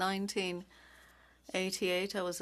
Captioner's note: speaking French